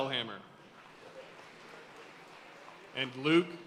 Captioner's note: audience cheering and applauding